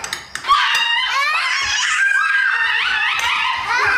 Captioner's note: children yelling